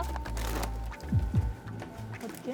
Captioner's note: heart beating